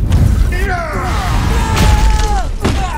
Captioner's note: both scream; groaning